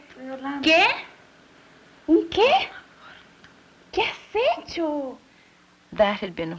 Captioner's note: speaking Spanish